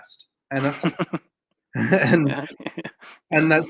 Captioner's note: laughs